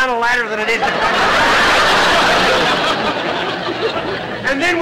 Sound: audience laughter

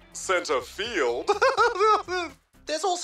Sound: laughs

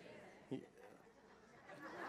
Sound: laughter

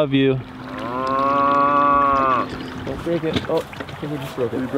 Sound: cows mooing

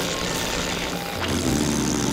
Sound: blowing a raspberry

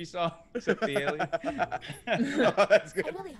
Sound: laugh

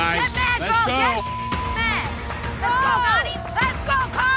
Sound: beep

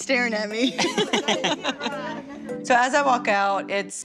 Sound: laughter

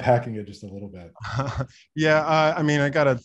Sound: laughs

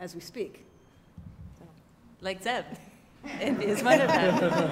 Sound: laugh

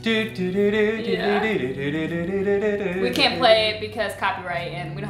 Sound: humming the song

